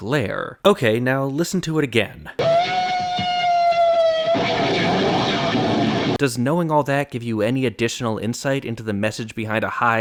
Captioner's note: bang